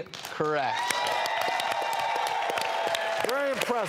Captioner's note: audience applause